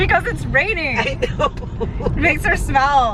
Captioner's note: laughing